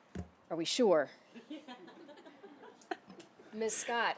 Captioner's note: laughter